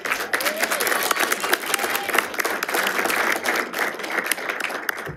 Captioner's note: group applauds and cheers